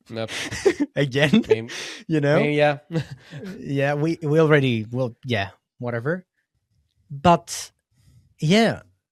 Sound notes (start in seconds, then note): 3.3 laughs